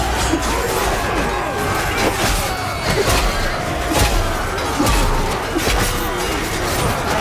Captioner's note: berserker rampaging